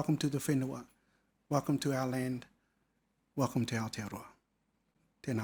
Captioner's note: speaking foreign language